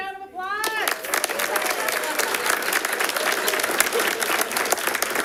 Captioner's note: audience applauding